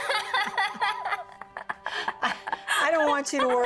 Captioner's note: laughing